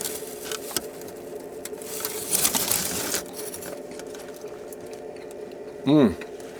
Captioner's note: sound of eating and metal foil